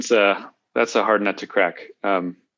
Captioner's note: chuckles